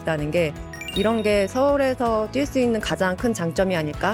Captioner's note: sparkling sound effect